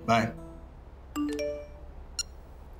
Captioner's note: Notification tone